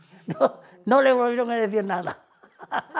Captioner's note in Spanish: risas